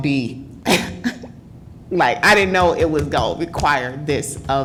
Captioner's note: laughter